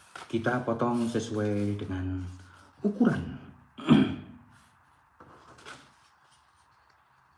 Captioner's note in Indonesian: berdehem